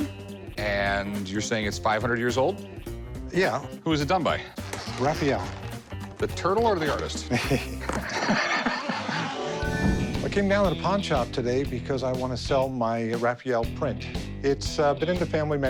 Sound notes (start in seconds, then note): 7.2 chuckling